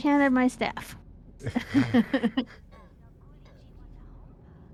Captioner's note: laughter